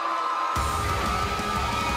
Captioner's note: bell ringing; crowd cheering